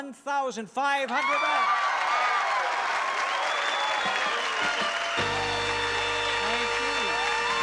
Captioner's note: cheering